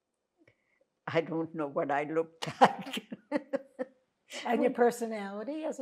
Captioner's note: laughing